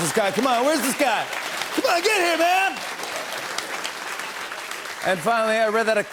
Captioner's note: applause